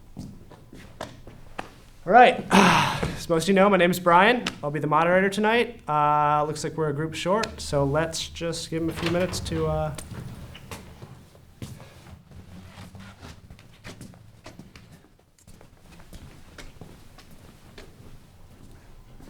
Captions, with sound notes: All right, as most of you know, my name is Brian. I'll be the moderator tonight. Uhhh, looks like we're a group short, so, lets just give them a few minutes to uhh- [DOORS OPEN AGAIN]